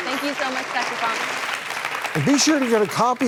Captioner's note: audience applauds